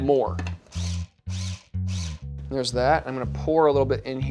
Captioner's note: blender whirring